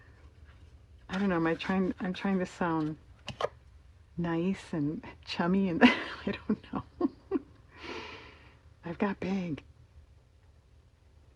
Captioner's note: laughs